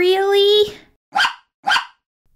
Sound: bark! Bark!

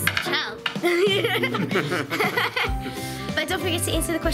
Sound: laughing

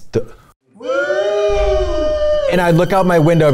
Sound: wooos

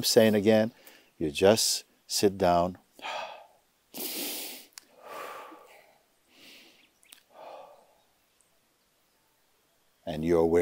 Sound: slowly inhales and exhales

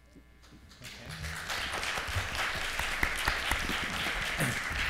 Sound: applause

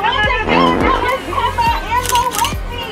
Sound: fart noise effect; camera shutter sound effect

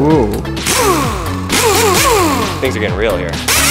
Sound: drilling

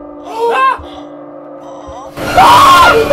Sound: shrieks; gasps; moaning; bloodcurdling scream

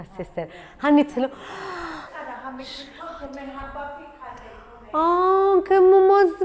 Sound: gasps

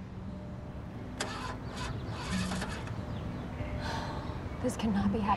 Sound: engine chugs

